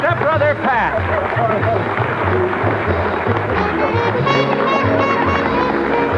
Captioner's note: Louis laughing as audience applauds